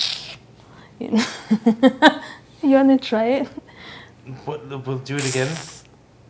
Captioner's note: mouth sound